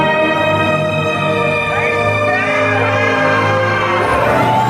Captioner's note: screams